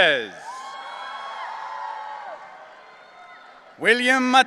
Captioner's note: audience cheering